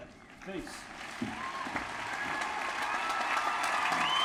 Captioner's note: applause